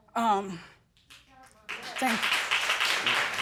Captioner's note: all applauding